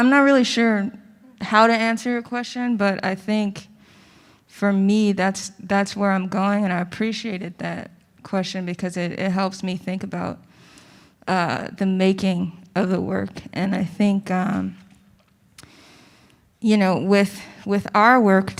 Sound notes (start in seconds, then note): none